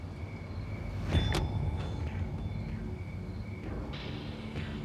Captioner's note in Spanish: ruidos al bajar de un auto